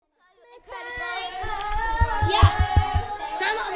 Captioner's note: children chattering